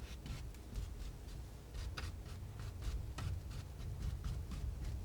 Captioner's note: scratching